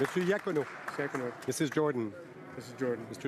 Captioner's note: some Applause